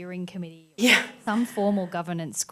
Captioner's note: chuckles